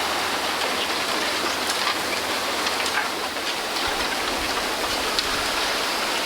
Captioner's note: bamboo sounds